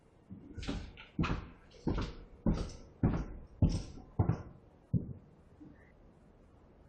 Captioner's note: footsteps